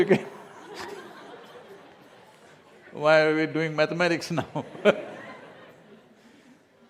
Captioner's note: laughter; laughs